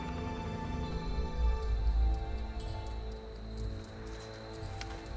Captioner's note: crickets chirping